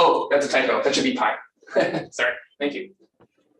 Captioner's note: laughs